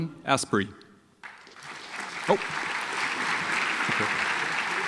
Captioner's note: audience applauds